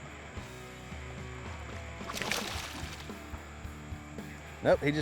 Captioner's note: water splashing